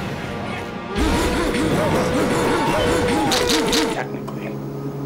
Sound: Dean grunts

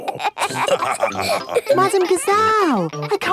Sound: all laughing

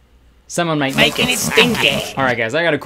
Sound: evil laughter

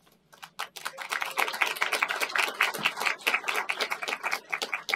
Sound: applause

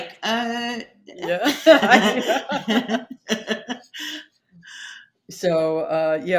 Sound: both laughing

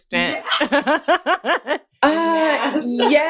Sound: laughter

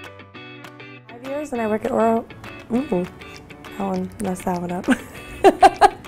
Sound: laughter

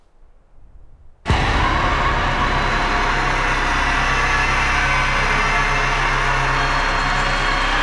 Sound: dark dramatic music; banshee screaming

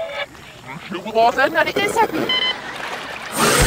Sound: backwards voices; beep beep

